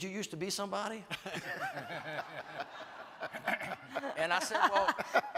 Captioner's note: everyone laughs